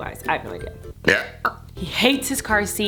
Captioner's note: belches